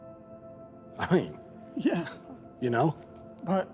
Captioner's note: laughs